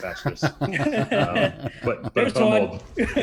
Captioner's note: laughter